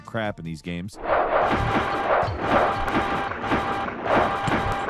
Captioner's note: rocks crashing